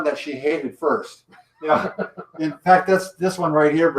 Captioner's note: laughing